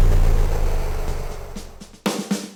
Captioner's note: shooting noise; static noise